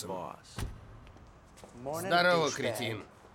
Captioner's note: vehicle door closes